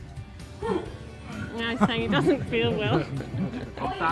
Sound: laughs

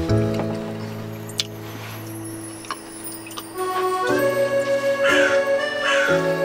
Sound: eating

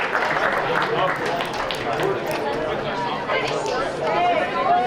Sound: group chattering

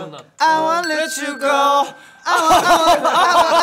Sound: dinging; laughing

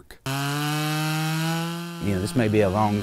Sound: sound of chain saw

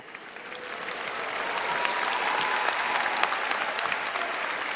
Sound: applause and cheering

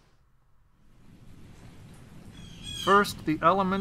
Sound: birds calling

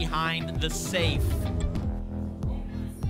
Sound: whoosh

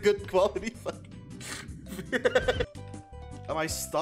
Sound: laughter

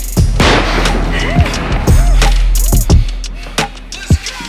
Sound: gunshot

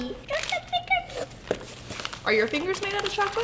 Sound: babbling

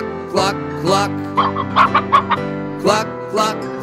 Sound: chicken clucking

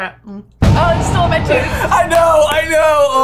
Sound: epic boom

